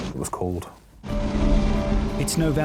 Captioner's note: lifeboat engine whirring; upbeat instrumental music